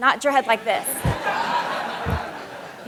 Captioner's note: laughter